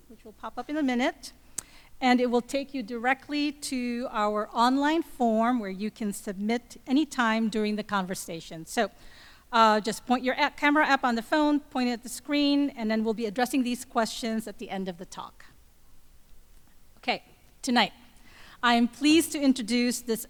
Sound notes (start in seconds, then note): none